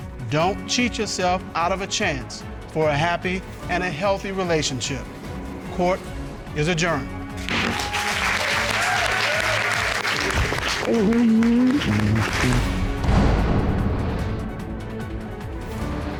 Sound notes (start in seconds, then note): 7.4 cheers and applause; 7.5 gavel thuds